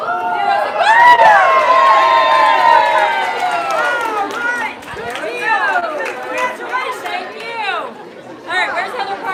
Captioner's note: applause